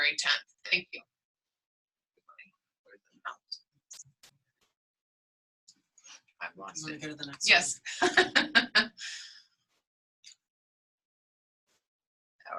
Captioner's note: pause